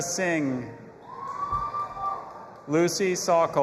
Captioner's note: audience applauding and cheering